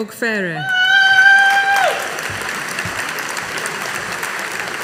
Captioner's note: audience applauding